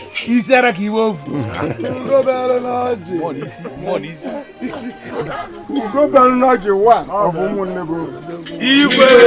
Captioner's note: laughter